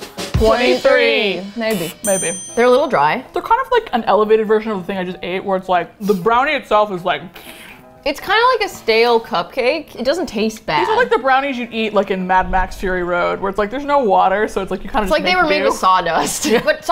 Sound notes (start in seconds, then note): 0.0 drum roll; 7.3 sucks in air; 16.2 laughs